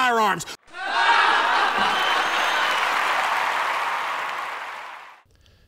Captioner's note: laughter, applause